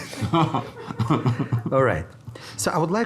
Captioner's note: everyone laughing